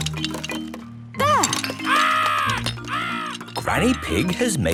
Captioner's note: seagulls cries